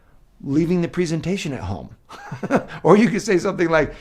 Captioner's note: laughs